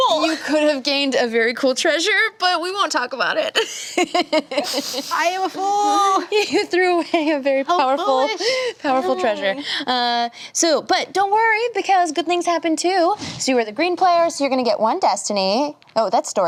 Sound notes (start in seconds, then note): 3.6 laughs